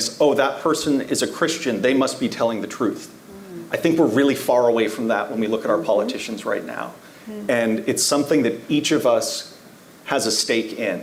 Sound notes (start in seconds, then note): none